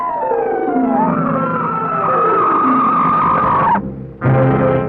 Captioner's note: quirky dramatic music continues; serpent shrieking; solemn dramatic music